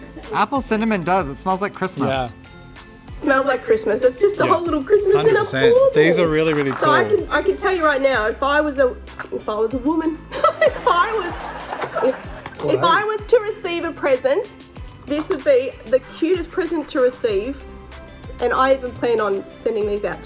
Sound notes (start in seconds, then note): 10.4 laughs